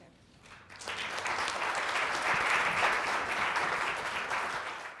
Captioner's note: audience applauds